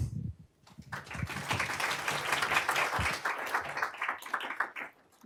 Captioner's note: applause